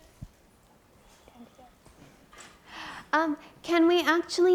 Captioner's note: speaking softly